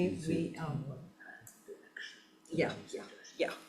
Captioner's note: whispering